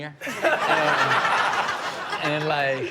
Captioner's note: all laughing